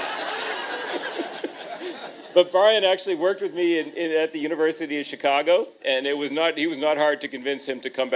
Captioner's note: chuckle